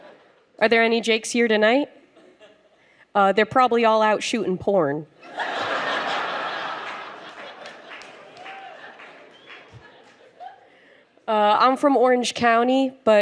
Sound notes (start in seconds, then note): 0.0 laughter; 5.2 crowd laughs; 8.8 scattered applause